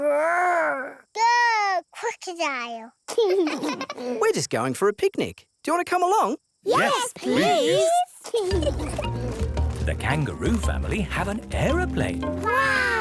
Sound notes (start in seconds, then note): 3.4 both laugh